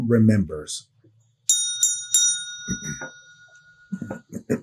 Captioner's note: bell ringing